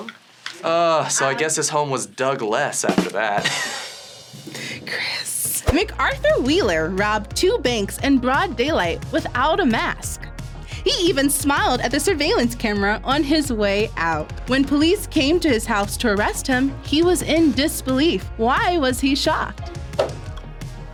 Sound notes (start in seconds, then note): 5.0 whispers; 5.6 rimshot echoes